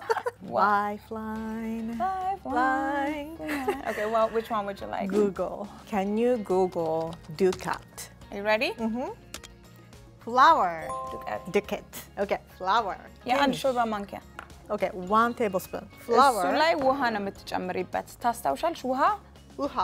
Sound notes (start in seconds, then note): 6.7 Amharic; 10.4 Amharic; 13.3 speaking Amharic; 16.8 speaking Amharic